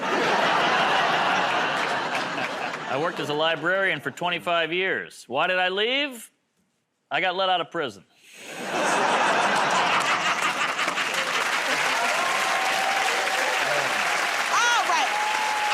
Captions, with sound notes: [ Laughter ] -I worked as a librarian for 25 years. Why did I leave? I got let out of prison. [ Laughter ] [ Cheers and applause ] -All right.